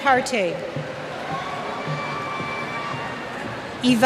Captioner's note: cheers